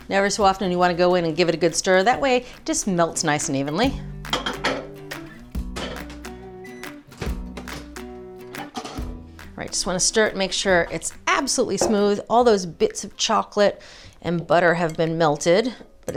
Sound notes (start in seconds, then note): 4.5 bright music; 6.6 microwave beeps